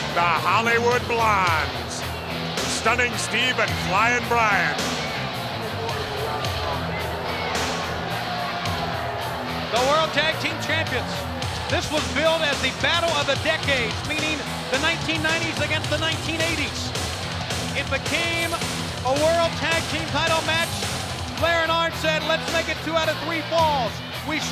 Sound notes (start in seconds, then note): 6.4 crowd clamoring; 6.4 lively music